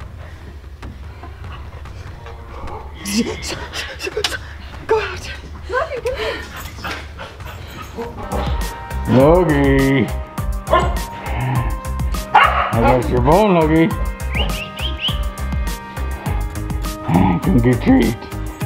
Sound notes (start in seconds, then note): 0.0 dramatic music; 12.3 dog barks